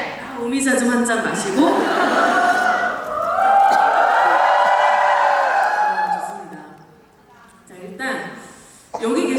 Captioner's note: cheers